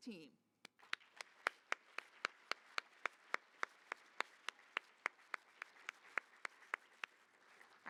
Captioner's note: applause